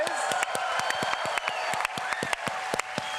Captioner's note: cheering